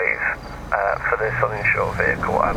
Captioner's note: radio